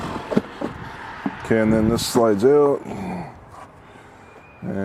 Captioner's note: lots of caveman grunting like Tim Allen on Home Improvement